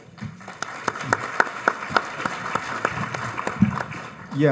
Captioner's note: audience applauds